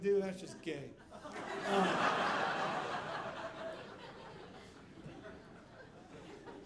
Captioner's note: audience laughing